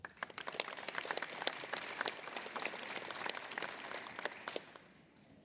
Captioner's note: applause